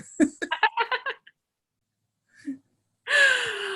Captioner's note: laughing